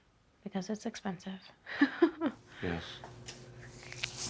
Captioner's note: laughs